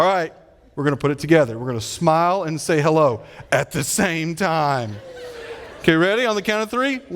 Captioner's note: audience laughing